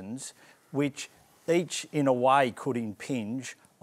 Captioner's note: none